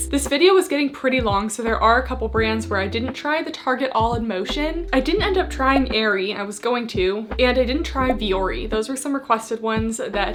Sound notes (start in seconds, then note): 5.8 graphics beeping; 8.1 graphics beeping